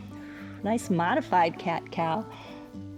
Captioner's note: exhales